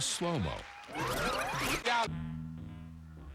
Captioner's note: sound effect tape rewinding